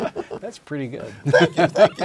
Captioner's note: laugh